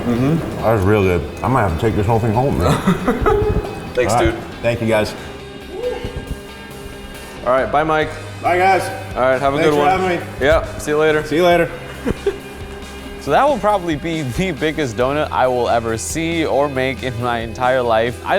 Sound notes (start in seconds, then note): 3.1 laughing; 11.4 laughing